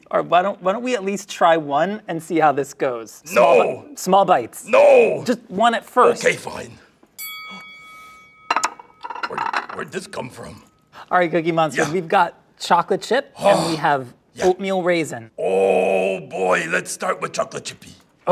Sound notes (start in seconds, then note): 7.1 bell dings; 8.4 plates clatter